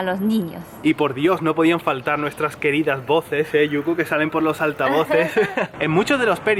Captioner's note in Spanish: risas